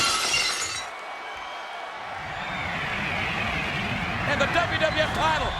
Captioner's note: glass shatters; audience cheers